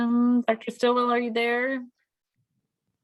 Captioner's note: none